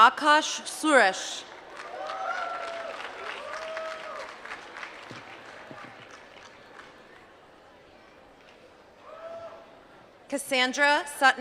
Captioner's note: applause